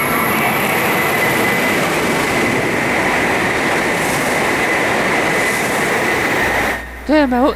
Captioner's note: Kagayaki 513 passing